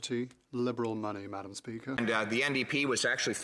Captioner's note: speaking French